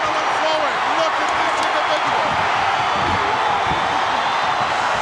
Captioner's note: audience cheering